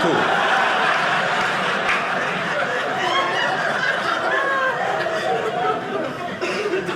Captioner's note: audience laughing